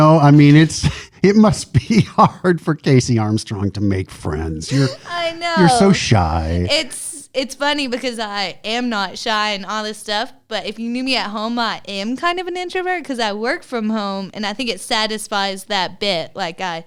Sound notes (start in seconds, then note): 4.7 laughter